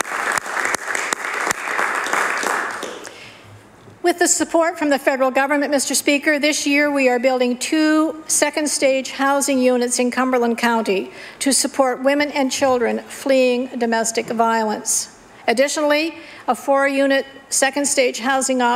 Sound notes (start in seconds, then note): 3.1 applause